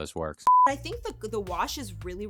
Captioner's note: electronic beeping